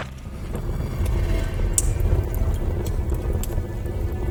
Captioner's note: flames roaring